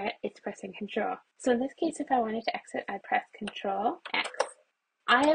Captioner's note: keyboard keys pressed